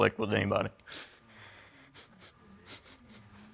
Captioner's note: sniffles